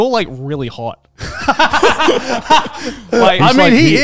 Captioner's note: laughing